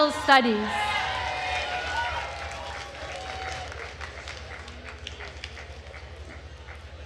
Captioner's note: attendees cheering and applauding